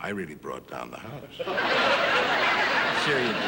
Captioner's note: audience laughing